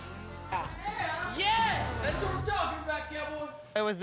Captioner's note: thud